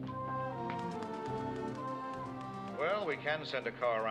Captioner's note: typing